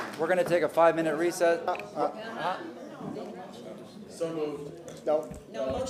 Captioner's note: applause